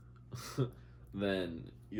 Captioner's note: laughs